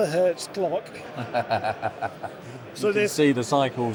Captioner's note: laughing